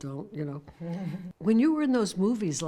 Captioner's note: Fran chuckles